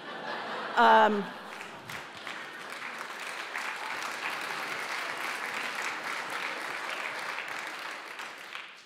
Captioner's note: laugh; applause